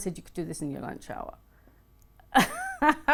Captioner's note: laughs